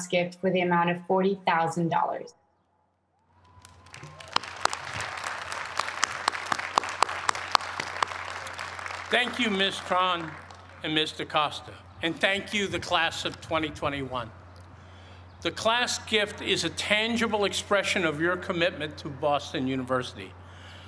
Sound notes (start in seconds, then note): 3.3 applause